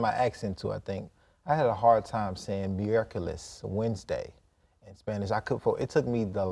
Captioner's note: in Spanish